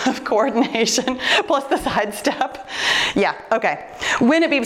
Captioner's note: laughs